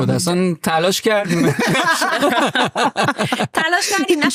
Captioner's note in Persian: خنده